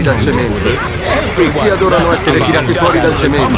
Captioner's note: all laughing